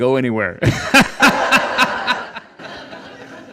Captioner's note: laughing